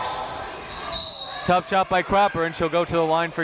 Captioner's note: whistle tweeting